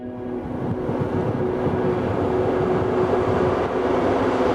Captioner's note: car engine roaring